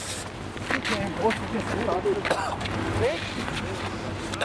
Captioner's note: coughing